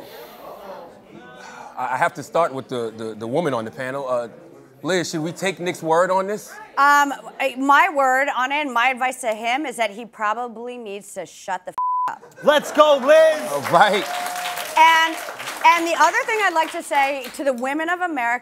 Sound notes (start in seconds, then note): 12.4 applause